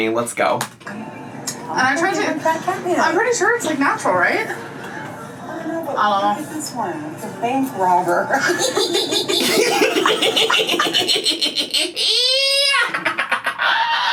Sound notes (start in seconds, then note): 8.3 laughs; 8.5 laughing